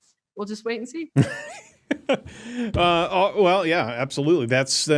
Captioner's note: laughs